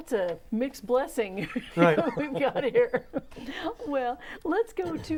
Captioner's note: laughing